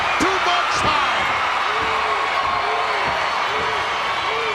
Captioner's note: crowd cheering